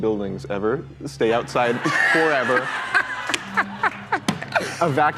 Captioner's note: laughter